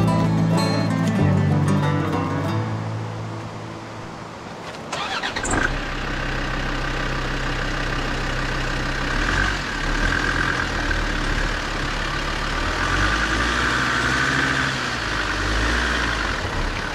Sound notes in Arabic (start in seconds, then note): 5.4 محرك السيارة يبدأ